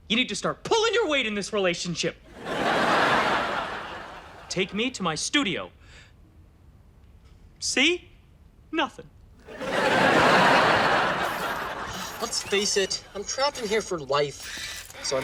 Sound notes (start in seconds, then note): 2.3 audience laughs; 9.4 audience laughs